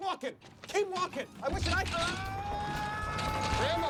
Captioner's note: screaming